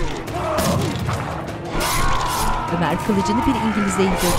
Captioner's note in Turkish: Haykırma sesi